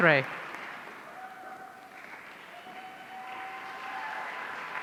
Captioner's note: audience cheering